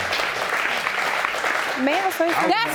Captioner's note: audience applauding